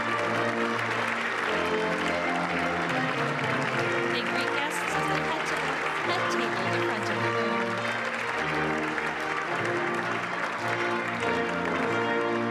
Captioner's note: applause